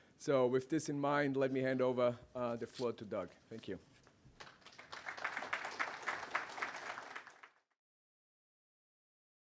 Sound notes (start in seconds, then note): 4.4 applause